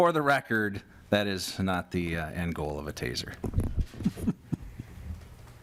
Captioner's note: laughter